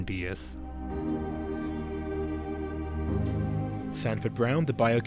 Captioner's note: voiceover